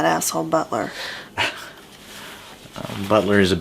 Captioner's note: chuckles